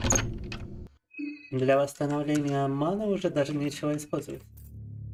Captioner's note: speaking in Russian